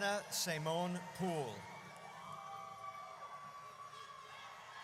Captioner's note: audience cheers